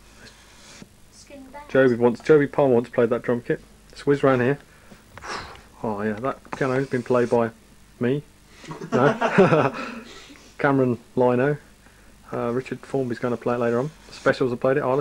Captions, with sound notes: Joby Palmer once played that drum-kit let's whizz round here that piano's been played by...me [laughter] ...Cameron Lino...Richard Formby's gonna play it later on